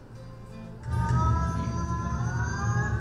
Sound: calm music; voiceover

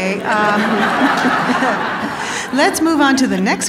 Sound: audience laughing

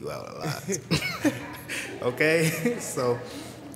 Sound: laughter

